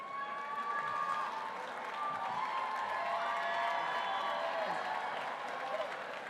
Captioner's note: applause